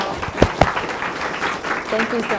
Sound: applause

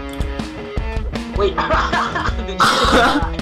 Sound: laughs

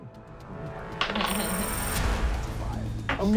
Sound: dice rolling

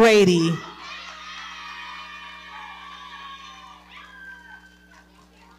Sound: audience cheering

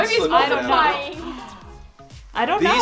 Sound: gasps

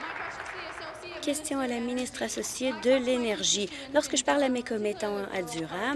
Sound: applause

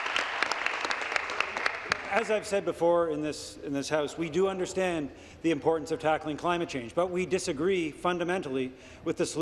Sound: applause

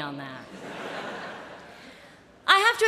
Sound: laughter

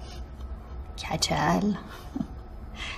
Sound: laughing

